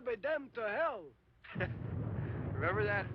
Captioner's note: laughs